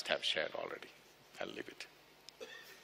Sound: laughs

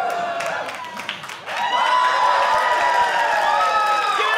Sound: audience cheering

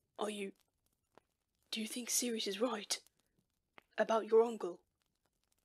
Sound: none

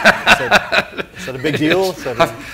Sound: laughs

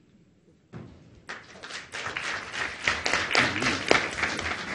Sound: audience applauds

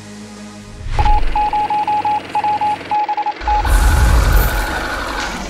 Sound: telegraph beeping

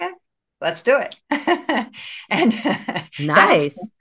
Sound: laughs

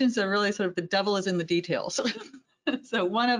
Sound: laughs

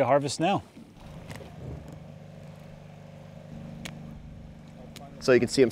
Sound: boat engine burbling

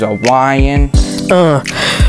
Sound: deep breath

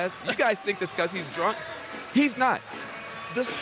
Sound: laughter

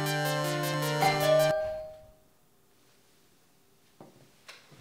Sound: doorbell Rings

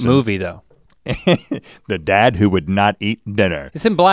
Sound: chuckles

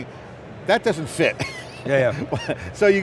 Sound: laughs

